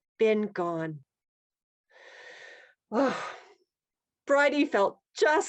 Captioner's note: breath